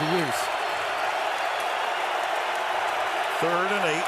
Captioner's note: crowd cheering